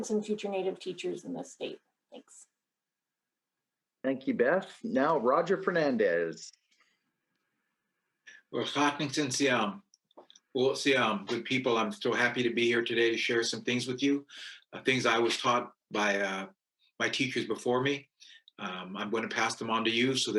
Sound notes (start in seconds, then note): 8.8 speaking in foreign language